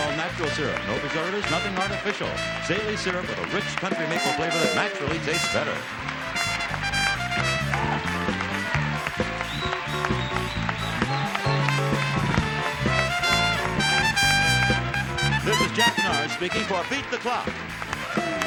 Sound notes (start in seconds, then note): 6.8 cheering; 6.8 lively music